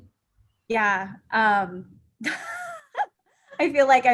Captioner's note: laughter